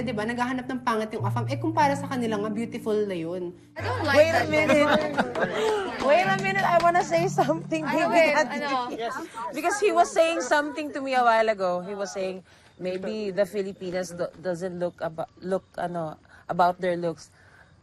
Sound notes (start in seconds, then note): 3.8 laughing